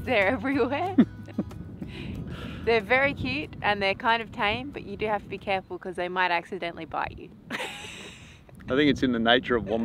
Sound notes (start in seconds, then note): 7.5 laughs